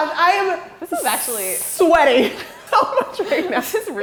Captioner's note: chuckling